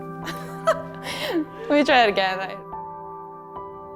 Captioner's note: laughs